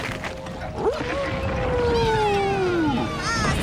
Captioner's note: cheering